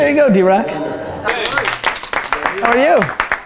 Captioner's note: group applause